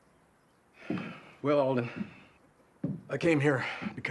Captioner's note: sighs